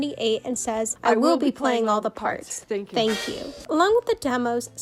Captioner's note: voice overlay